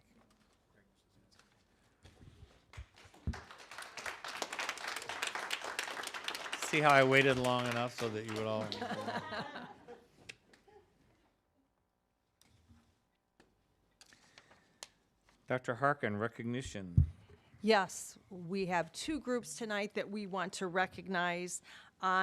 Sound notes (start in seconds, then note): 8.0 applause; 10.4 laughing